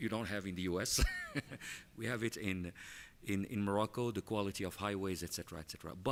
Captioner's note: laughs